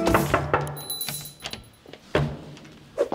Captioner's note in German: Klingeln